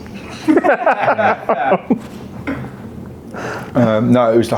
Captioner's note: laugh